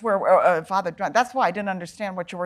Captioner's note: chattering